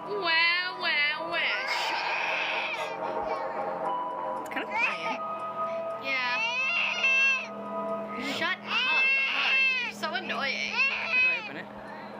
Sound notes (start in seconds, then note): 1.4 baby crying continues; 6.6 baby crying noises from game